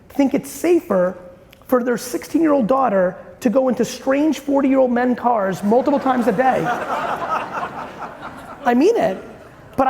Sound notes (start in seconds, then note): 5.5 audience laughing loudly